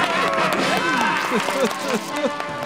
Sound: crying

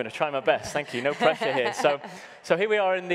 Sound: laughing

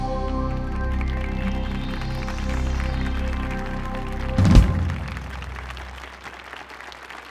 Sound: applause

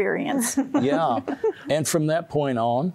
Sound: giggling

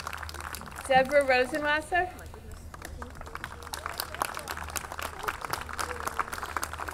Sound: audience clapping

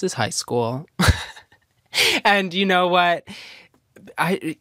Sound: laughs

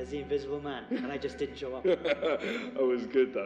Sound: laughing

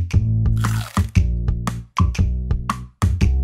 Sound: Ed chomps

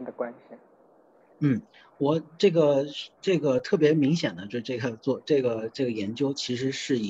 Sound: Mandarin

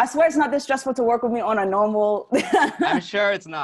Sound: laughs

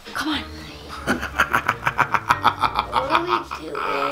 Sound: laughing

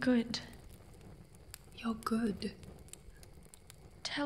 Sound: whispers, soothing

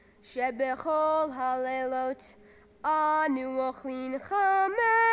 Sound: chants in Hebrew

